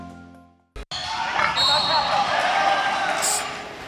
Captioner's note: fans cheering